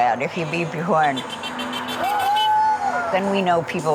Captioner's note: horn honking; group cheering